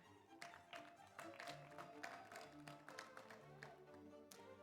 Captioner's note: audience applauds